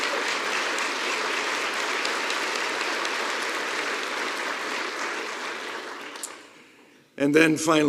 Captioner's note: applause